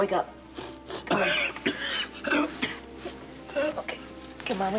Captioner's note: coughing